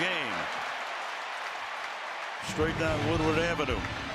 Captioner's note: cheering